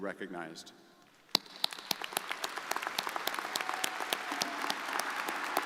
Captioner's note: crowd applauding